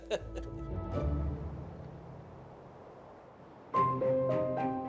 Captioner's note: chuckles